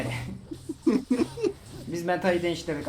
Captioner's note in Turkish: gülüşmeler